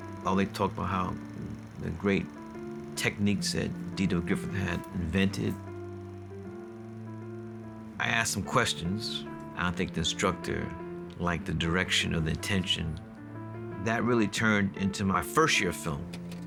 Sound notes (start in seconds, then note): none